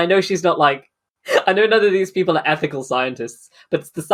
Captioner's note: laughing